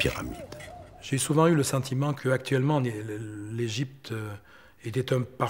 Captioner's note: French spoken audio